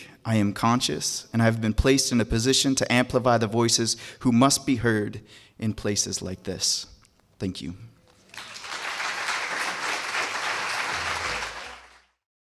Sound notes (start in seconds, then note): 8.1 applause